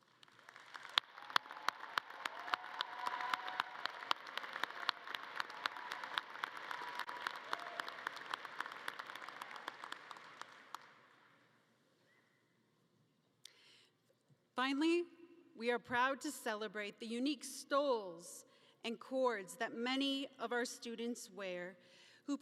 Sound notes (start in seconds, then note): 1.2 audience cheering and clapping